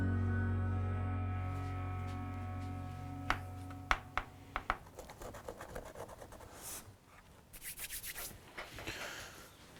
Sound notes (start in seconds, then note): 4.5 tapping wood